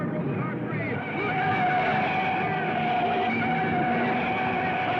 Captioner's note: tires screeching